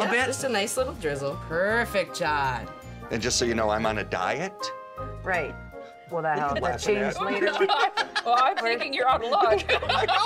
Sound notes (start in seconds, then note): 6.4 laughing